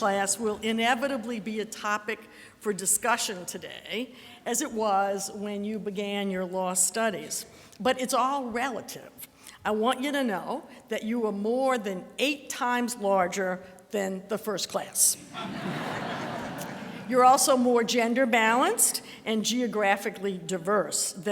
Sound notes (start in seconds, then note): 15.2 audience laughter